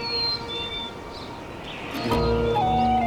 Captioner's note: birds singing